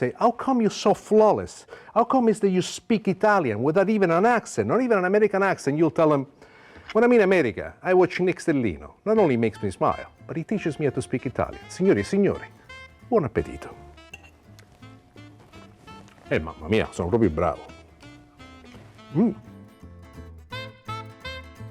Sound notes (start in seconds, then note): 16.6 speaks Italian; 19.5 lively jazz music